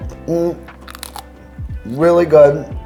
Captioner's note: chips crunches